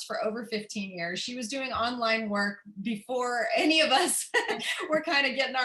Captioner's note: laughter